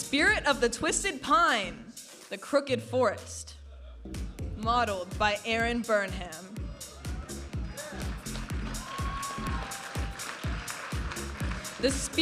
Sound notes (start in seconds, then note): 0.0 vibrant music; 7.6 audience applauding and cheering; 10.9 vibrant music